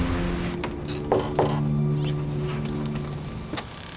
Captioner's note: knock on door